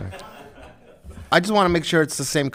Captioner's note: group chuckling